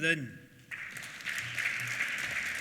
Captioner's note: applause